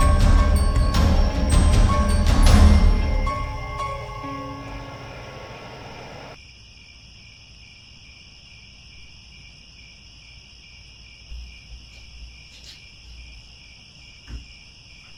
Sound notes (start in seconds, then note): 6.3 crickets